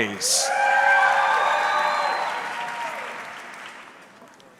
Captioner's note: audience cheering